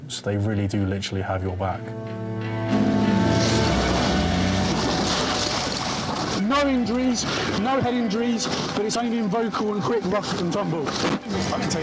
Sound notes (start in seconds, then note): 1.5 engine rumbling; 2.4 dramatic music